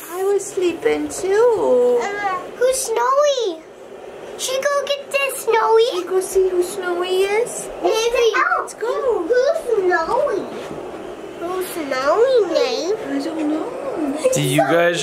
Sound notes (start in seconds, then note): 2.2 babbles